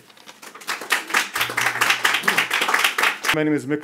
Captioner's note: audience applauding